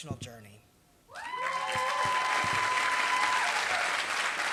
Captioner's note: applause